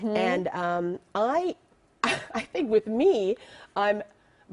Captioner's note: laughter